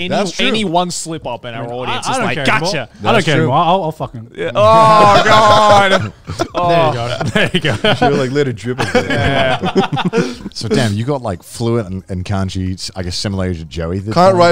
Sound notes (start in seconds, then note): 4.6 group chatter; 8.6 all laughing